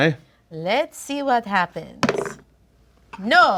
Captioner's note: dice roll